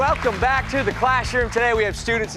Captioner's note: applause